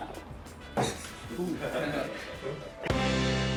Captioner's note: laughs